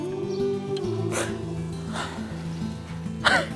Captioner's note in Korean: 흐흑